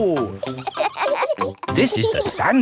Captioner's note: kids laughing